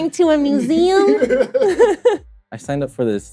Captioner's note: laughs